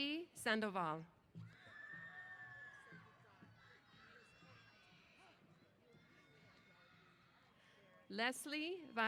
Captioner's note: cheers